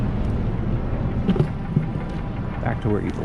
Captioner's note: plop